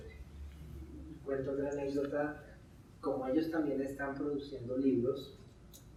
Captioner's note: speaking in Spanish